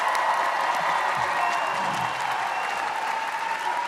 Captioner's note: audience cheers